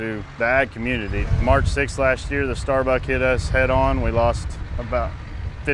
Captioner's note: fire